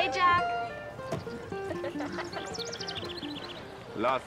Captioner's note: giggles